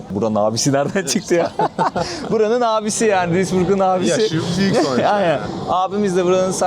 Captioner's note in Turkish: kahkaha